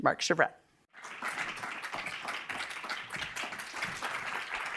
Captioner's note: audience applauds